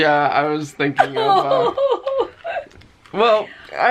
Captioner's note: laughing